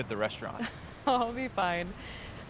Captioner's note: Fern laughs